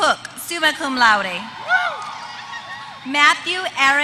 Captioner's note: applause